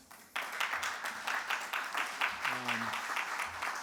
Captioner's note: audience clapping